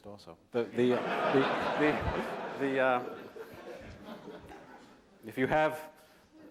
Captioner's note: laughter